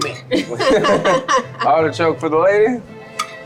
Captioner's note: laughs